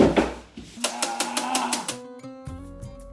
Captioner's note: thud; rattling; yelling; gentle music